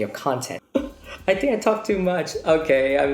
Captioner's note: giggle